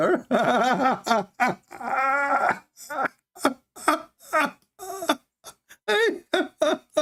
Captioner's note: Ketawa